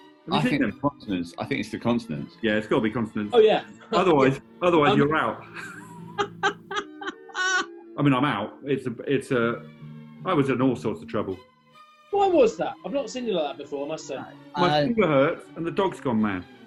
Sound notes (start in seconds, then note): 5.4 laughter